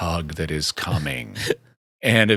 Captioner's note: laughing